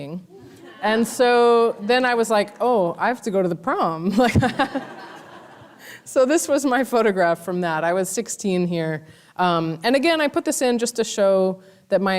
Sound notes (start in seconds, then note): 0.4 laughing; 4.4 laughing